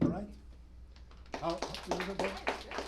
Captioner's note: applause